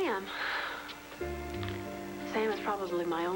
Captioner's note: none